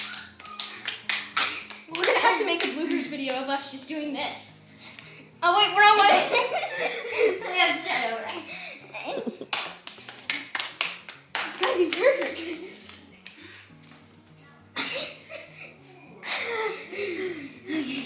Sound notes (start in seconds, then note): 0.0 hands slap; 9.4 hands slap